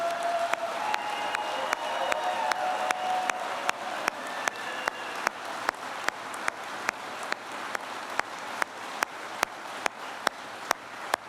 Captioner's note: applause